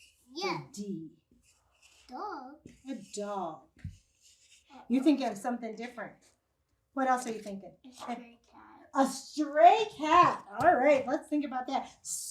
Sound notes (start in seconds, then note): 1.2 marker brushes against paper